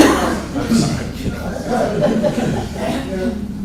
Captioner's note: laughter; laughing